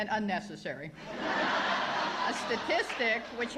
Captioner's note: laughter